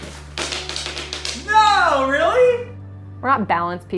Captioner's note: candy falling